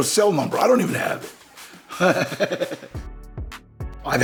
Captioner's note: laughs